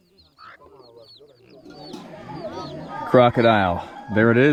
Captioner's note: chicks chirping